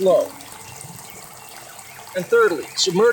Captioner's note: water gurgling